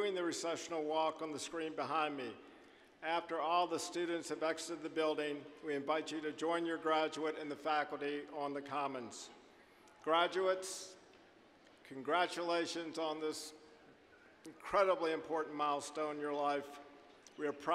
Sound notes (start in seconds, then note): none